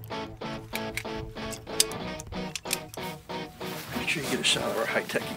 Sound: upbeat music; metal clanking

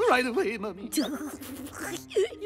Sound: laughing

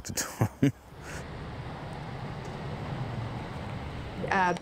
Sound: laughs

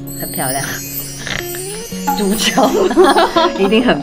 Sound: pig squawking!

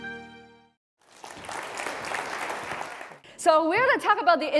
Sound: applause

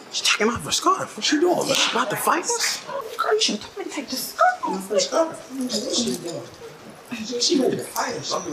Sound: instinctive chatter

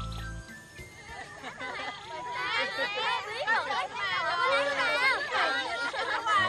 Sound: chattering

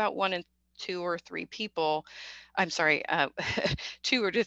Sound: chuckles

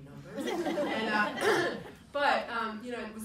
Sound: people laugh

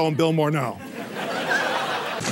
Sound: laughter

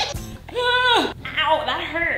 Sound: screams

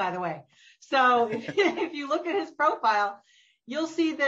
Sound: laughter

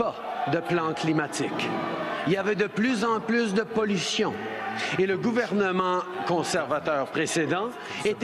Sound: crowd cheering "boo"; speaking French

